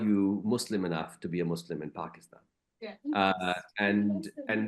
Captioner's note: speaks faintly